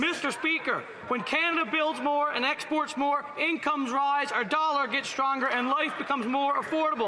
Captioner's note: some Applause